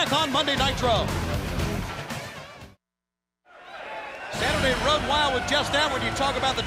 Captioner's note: crowd cheering